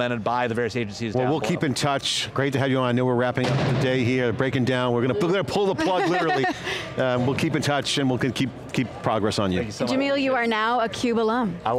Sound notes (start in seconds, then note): 7.6 laughing